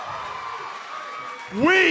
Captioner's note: cheers and applause